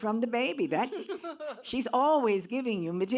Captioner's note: laughs